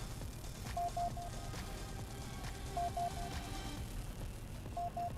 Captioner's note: the sounds of payday 3's sonar looking for a playerbase